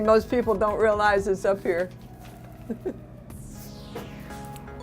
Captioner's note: laughing